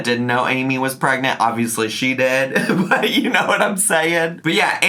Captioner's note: laughs